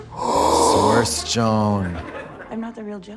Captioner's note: Trixie gasps